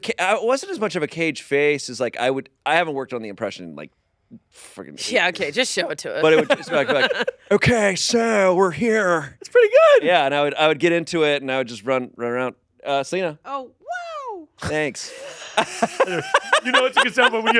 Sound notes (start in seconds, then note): 14.6 laughs